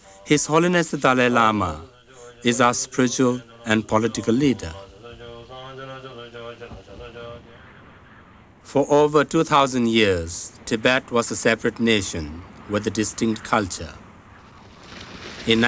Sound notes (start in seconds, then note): 5.5 voice praying